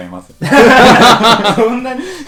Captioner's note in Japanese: 一同 笑